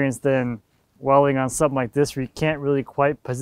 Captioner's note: none